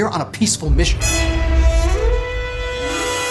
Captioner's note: explosion